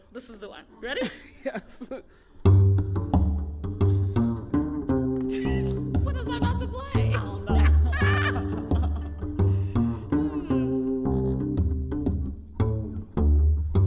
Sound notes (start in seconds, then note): 7.0 laughing